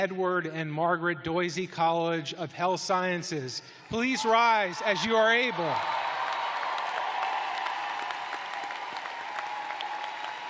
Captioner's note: cheers and applause